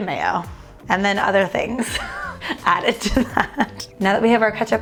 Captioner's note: laughing